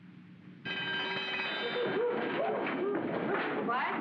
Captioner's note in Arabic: يدق الجرس